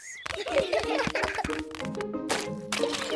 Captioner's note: all giggling